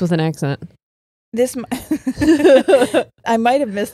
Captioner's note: all laughing